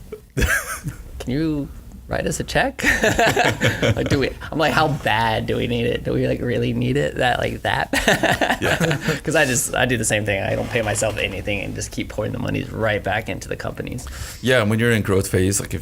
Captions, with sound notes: Can you write us a check? (laughs) I'm like, how bad do we need it? Do we really need it that bad? 'Cause I do the same thing, I don't pay myself anything, just keep putting the moneys right back into the company. - Yeah, when you're in growth phase,